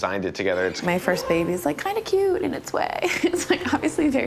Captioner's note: laughs